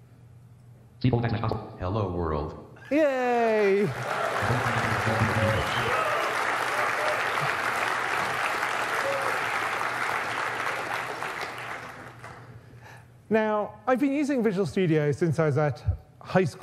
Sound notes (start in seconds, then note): 3.5 applause and cheering